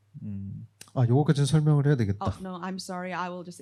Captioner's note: speaking korean